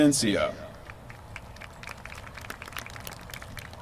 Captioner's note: applause